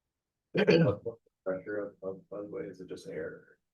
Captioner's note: clears throat